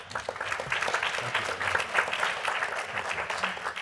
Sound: applause

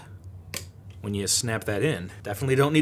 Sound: clicks

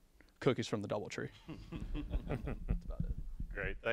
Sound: laughter

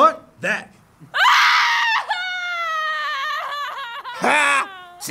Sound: immense sobbing and wailing

